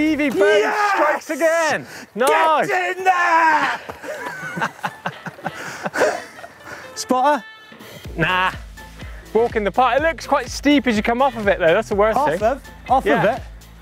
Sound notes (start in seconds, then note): 3.6 laughing